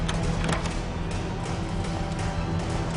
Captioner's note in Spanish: Ruido al cerrar